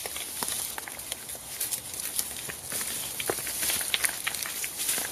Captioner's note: rocks sliding down the hillside